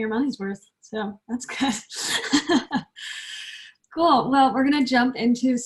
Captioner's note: laughs